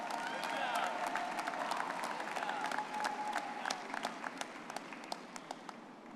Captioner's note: audience clapping and cheering